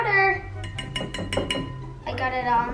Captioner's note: clinking